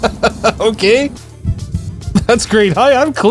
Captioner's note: confused laugh